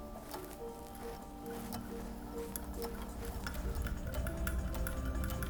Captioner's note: sewing machine whirring